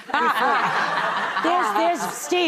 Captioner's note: audience laughing